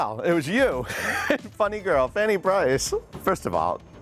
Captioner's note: chuckles